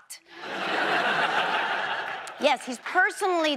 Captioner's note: audience laughs